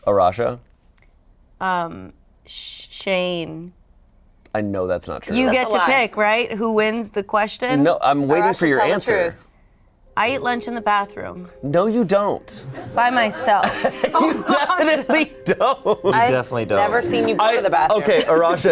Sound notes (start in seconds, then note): 13.5 everyone laughs; 15.4 laughing